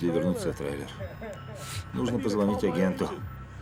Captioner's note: laughs